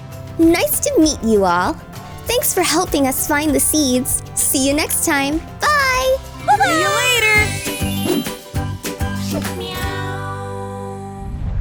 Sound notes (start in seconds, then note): 7.2 transition tones